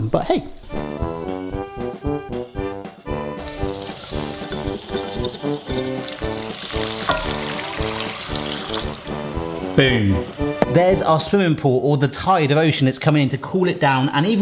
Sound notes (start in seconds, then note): 0.7 cheerful polka music; 6.3 polka music continues; 6.3 stock sloshing